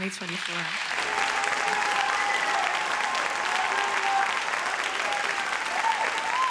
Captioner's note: audience cheers and applauds